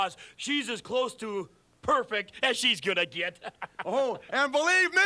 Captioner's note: laughs